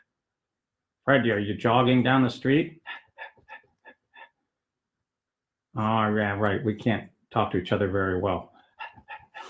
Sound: panting; puppet voice 2

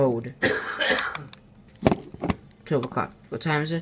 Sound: distant coughing

